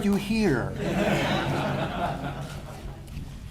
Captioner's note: laughter